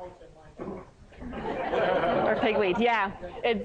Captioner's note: laughter